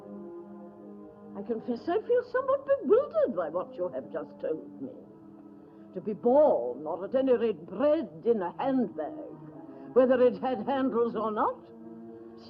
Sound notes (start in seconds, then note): none